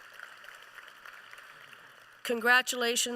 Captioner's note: applause